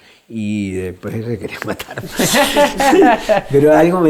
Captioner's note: laughs